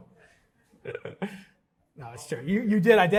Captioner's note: chuckles